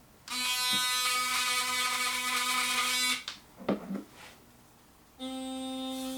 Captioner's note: louder toothbrush motor buzzing; muted toothbrush motor buzzing